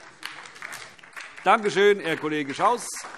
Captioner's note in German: Beifall DIE LINKE